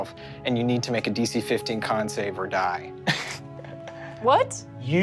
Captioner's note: laughs